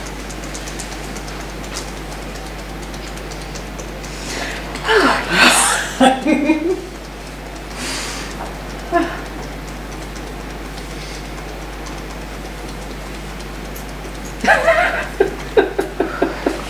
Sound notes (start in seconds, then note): 0.0 tapping; 4.2 sighs; 13.8 laughing